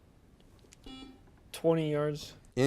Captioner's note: buzzer beeps